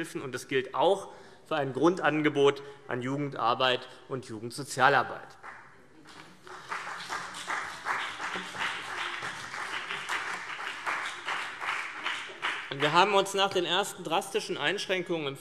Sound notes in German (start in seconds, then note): 6.0 Beifall CDU und BÜNDNIS 90/DIE GRÜNEN